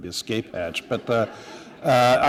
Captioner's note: laughter